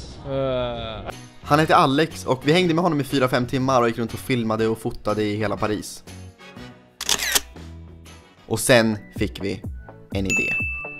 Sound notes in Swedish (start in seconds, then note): 7.0 kameraklick